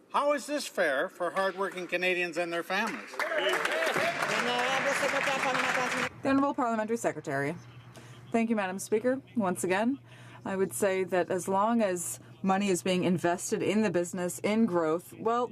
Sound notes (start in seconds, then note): 6.2 some Applause